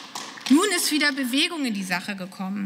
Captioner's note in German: Beifall